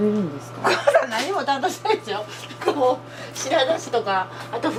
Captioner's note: laughs